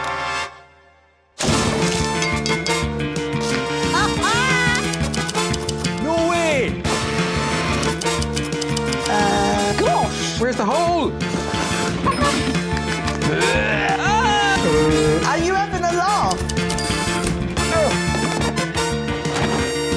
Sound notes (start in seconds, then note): 0.9 upbeat music playing; 13.3 screams